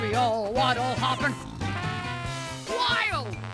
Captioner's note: snore